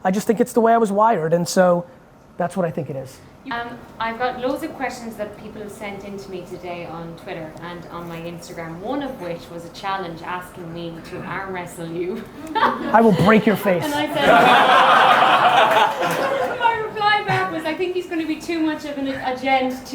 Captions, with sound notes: I just think it's the way I was wired and so that's what I think it is. - I've got loads of questions that people have sent in to me on Twitter and on my Instagram, one of which was a challenge asking me to arm wrestle you. (laughs) - I will break your face. (audience laughing) - My reply back was, I think he's gonna be too much of a gent